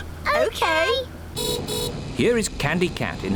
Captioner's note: horn beeps